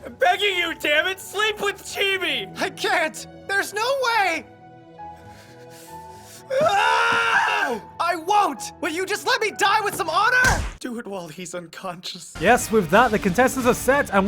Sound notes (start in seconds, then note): 6.4 scream of anger?; 10.4 punch